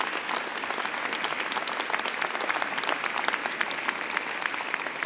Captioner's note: applause